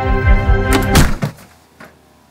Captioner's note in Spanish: cabeza golpea la puerta